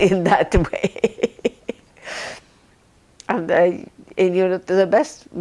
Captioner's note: laughing